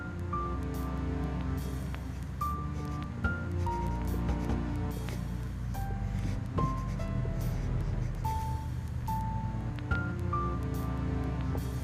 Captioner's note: pencil scritching